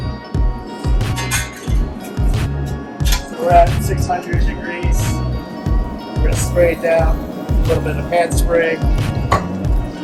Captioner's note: metal clangs